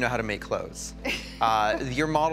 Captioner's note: chuckles